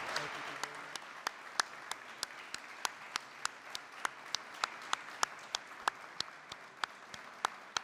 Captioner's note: applause